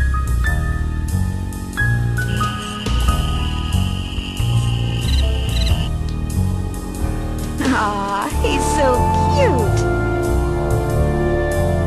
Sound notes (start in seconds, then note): 2.2 crickets chirping